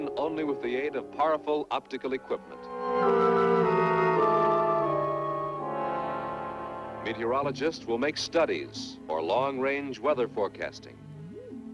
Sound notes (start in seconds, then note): none